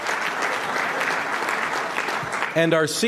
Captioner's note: applause